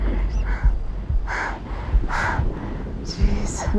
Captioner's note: breathes heavily